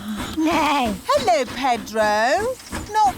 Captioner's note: neighs